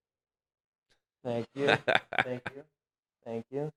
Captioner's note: laughing